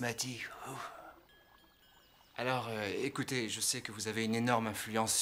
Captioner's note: sighs